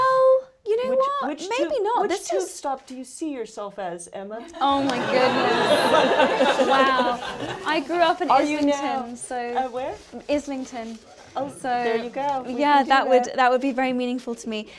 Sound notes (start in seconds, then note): 4.6 laughter - Oh my Goodness